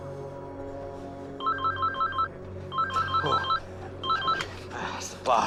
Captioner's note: phone rings